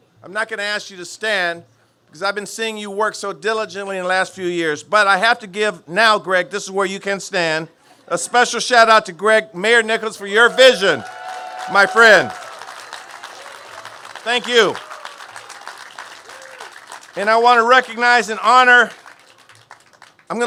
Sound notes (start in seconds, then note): 11.6 cheers and applause